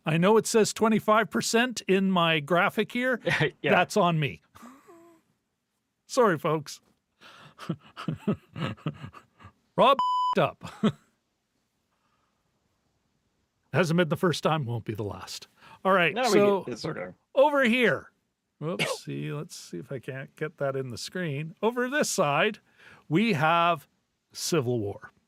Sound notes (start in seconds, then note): 7.5 laughing; 9.9 beep